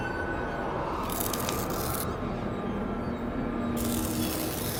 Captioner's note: blade scraping